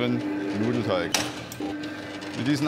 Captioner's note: rattling, roaring